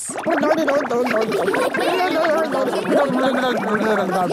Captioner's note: children laughing